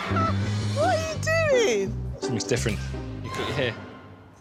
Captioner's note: chuckles